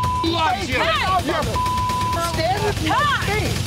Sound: beep

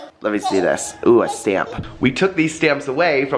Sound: laughs; yells

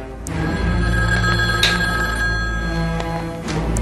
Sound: phone ringing

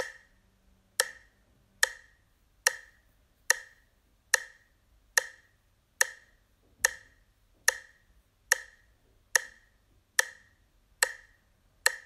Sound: sound of clock ticking - faster

